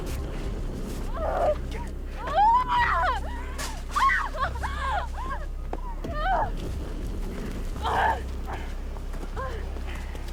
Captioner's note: screams